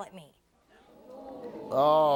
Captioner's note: audience gasping